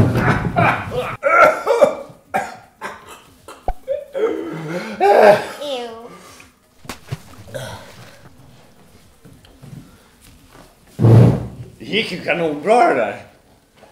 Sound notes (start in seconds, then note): 3.6 plop; 4.5 gasp; 6.8 splash